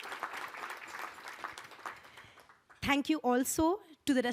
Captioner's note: applause